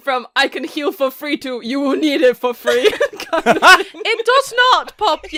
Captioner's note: laughing